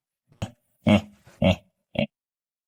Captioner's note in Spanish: Suspiro